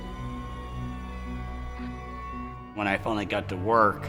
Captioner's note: sirens wailing